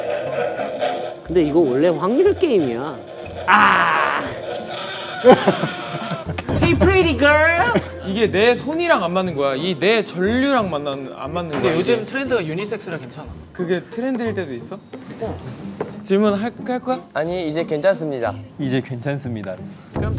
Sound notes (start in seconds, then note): 5.5 laughing